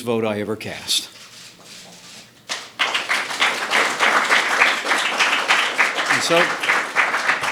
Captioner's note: applause